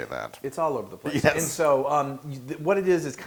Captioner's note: laugh